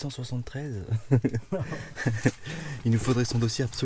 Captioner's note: laughs